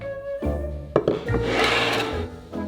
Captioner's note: plate sliding